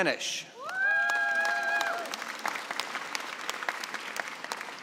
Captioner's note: cheering and applause